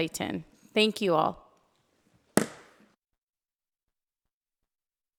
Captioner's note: gavel bangs